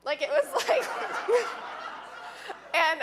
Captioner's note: audience laughing